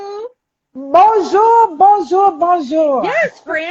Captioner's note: laughs